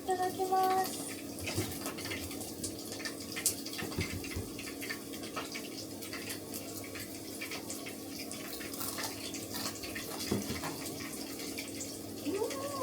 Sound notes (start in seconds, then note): 8.7 crunch crunch